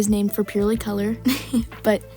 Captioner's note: laugh